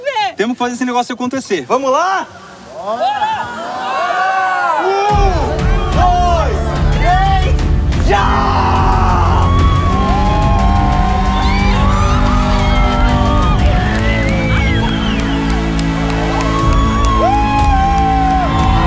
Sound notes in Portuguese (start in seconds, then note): 2.9 público grita; 8.0 grita; 9.5 gritos animados; 16.4 grita